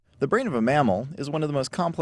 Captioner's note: voiceover